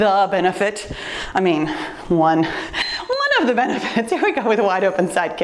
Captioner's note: timer beeps